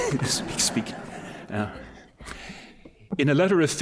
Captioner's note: laughter